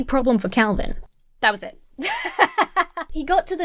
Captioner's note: laughs